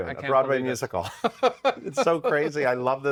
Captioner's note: laughs